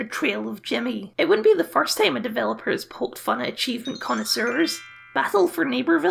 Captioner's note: sparkle Noises